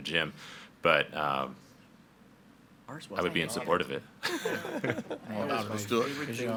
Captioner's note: laughs